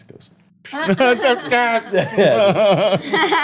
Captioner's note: laughing